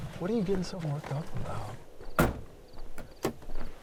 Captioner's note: door shuts